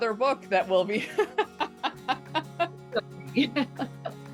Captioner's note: both laughing